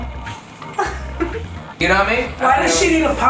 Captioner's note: laughter